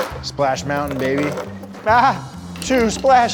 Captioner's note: laughing